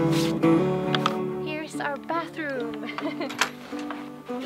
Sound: laughs

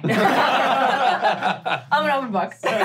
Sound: laughing

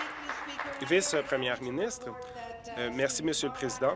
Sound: applause

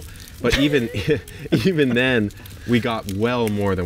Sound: laughs

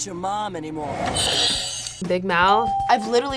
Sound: bell rings

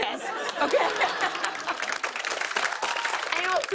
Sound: applause

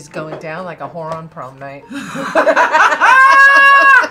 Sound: both laugh

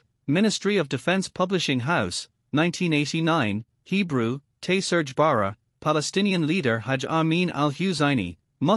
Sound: Hebrew

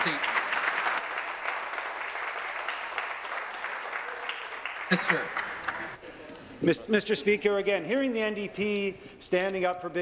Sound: some Applause

